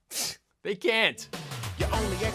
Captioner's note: scoffs